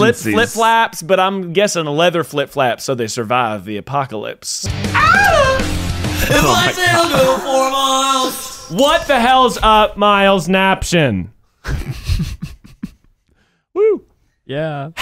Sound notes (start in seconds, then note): 4.9 moans; 11.6 laughing